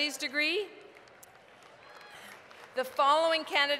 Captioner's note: applause